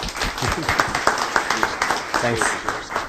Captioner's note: applause